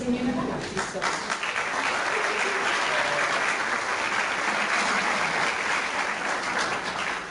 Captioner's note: clapping